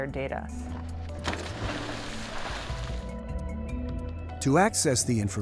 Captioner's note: water splashing